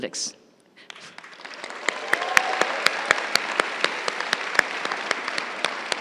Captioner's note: crowd cheering and applauding